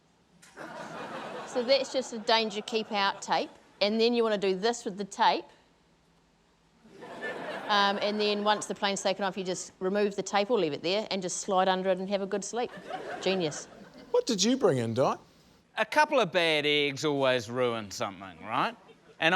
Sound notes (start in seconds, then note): 6.8 laughter